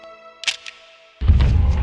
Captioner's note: camera Clicks